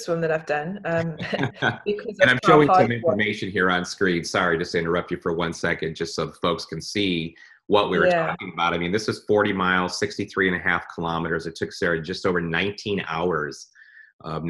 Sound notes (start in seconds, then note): 2.0 laughs; 2.0 mumbling